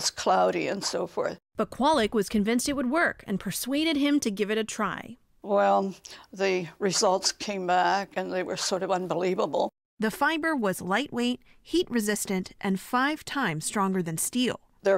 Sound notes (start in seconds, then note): 1.9 voice-over; 10.2 voice-over